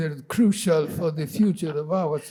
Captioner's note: laughing